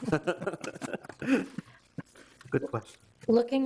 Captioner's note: people laughing